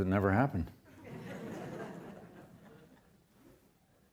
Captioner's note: audience laughs